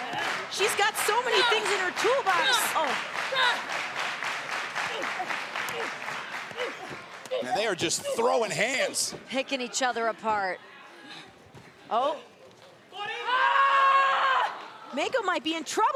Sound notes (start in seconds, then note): 4.2 applause